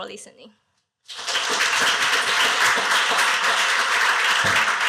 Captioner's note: applause